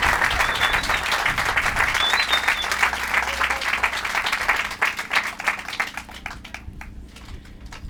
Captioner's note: applause